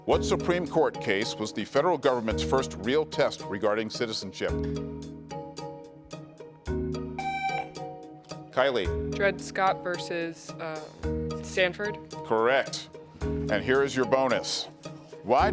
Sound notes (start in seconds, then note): 7.2 buzzer sounding